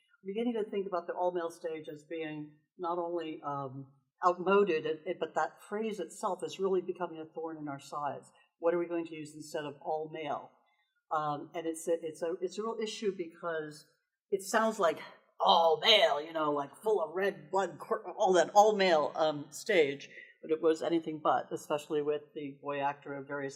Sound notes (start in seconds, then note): 15.2 in a gruff masculine voice